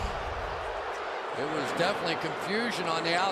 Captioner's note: booing